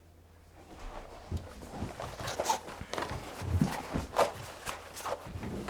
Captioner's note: shoes squeaking